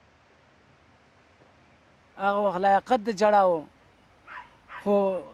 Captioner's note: man speaking Afghan